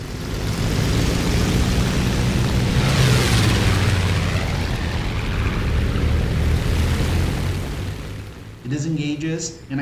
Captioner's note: aircraft Engines ,Gunfire, Flying Sounds